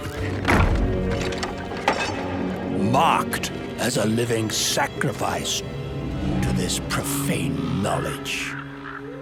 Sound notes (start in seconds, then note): 2.0 door thudding; 2.0 lock clanking